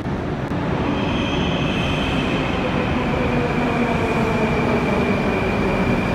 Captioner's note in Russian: прибытие поезда на станцию